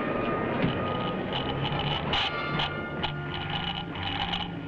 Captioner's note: speaker crackling